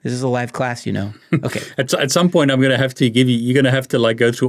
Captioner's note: chuckles